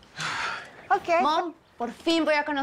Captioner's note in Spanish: Suspiros